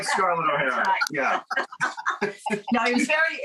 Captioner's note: all laugh